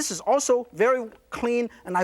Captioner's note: none